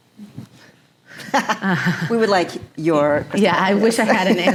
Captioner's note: chuckles